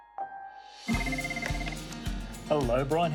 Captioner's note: tinkly piano music; phone rings